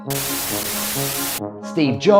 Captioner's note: static